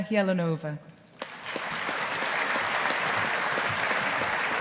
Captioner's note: audience applauding